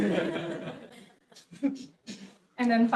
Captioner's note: audience laughs